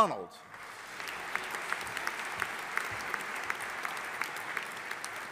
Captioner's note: audience applauding